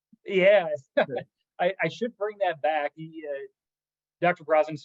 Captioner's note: laugh